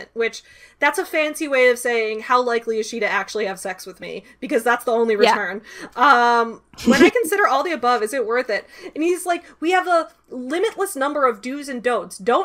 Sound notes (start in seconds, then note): 6.8 chuckles